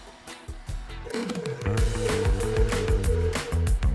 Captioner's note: mixer whirring